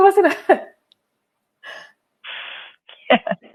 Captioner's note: chuckles